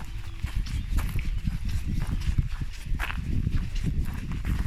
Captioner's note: walking